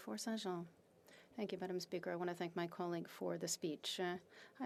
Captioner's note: speaking French